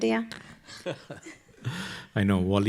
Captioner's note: laughs